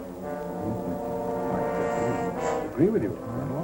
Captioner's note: murmuring